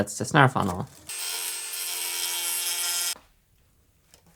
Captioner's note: grinding